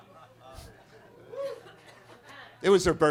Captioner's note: attendees laughing; attendee cheers; attendee coughing